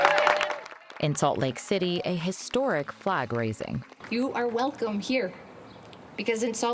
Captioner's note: applause